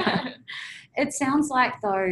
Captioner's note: laughing